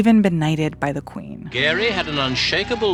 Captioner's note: soundbite of archived recording